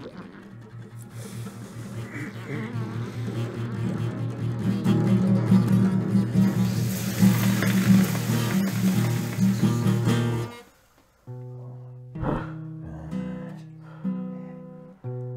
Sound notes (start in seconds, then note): 6.3 steam hissing